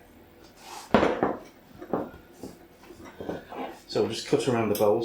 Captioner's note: sound of pastry being rolled into submission